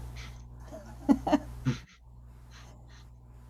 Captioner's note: laughing